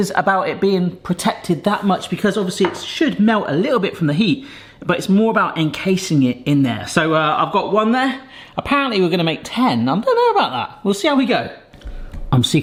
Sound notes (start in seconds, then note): none